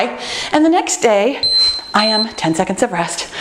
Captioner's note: timer beeping